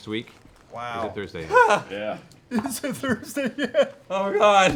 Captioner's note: mock-crying